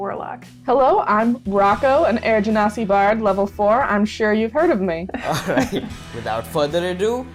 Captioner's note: laughter